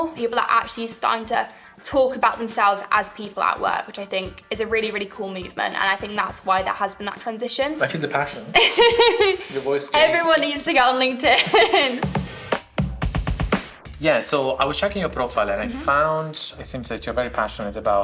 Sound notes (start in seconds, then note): 8.5 laughs; 12.3 upbeat music